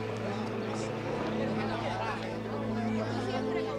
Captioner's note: indistinct chatter